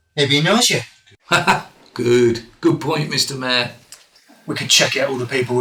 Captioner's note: laughs